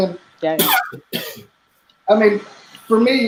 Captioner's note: coughing